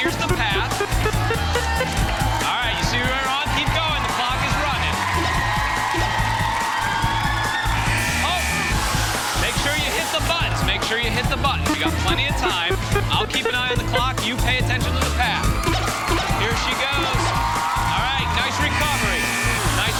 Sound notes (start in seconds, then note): 5.5 cheers and applause